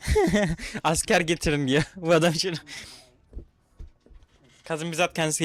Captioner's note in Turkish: kahkaha